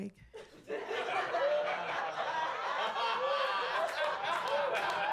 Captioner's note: audience laughing